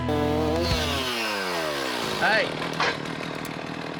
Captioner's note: chainsaw grinding